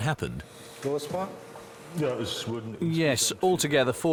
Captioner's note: speaking German